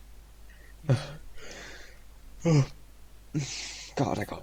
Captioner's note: yawn